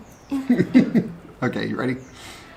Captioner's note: laughs